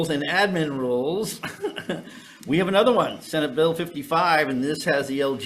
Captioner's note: chuckling